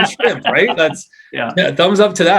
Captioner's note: both laugh